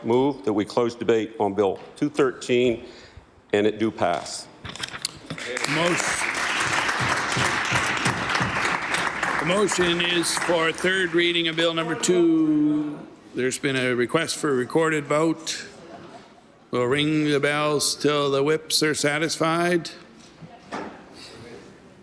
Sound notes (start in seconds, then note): 12.0 applause